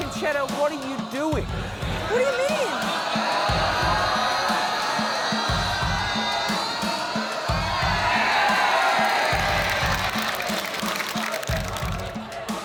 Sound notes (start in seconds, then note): 3.3 audience exclaims; 7.9 cheering, applause